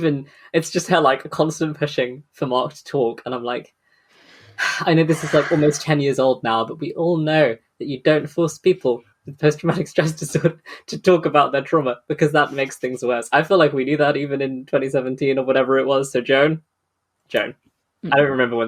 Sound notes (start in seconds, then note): 4.4 sighs